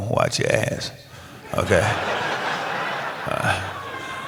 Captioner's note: laughter